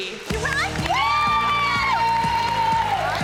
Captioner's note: cheering and applause